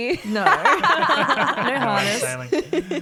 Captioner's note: all laugh